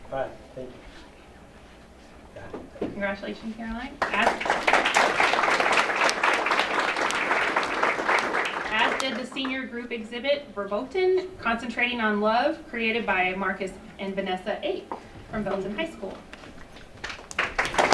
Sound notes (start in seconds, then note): 4.0 applause; 17.0 applause